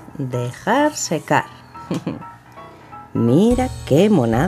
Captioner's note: laugh